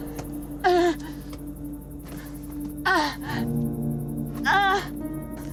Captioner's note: straining grunts